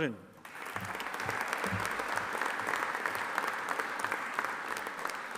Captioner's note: audience applauding